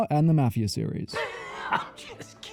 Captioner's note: wheeze laughing